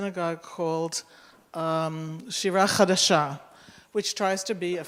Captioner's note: Hebrew